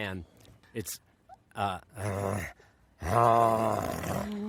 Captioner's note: growling